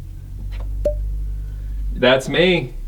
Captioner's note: electronic beep